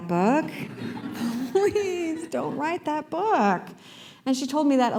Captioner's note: laughter